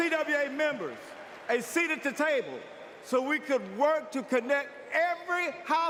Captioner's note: applause